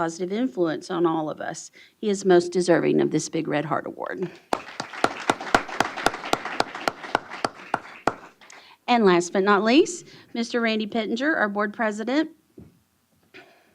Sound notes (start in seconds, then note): 4.4 applause